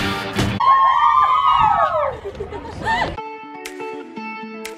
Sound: excited cheering; light instrumental music

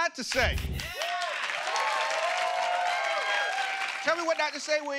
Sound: cheers and applause

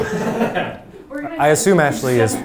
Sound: laughing

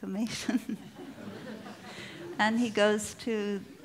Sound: laughter

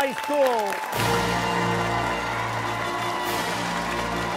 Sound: cheers and applause

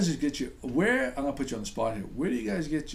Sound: voiceover

